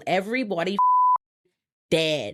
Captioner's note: beep